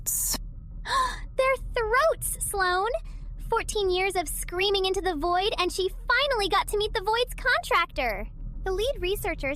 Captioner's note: gasp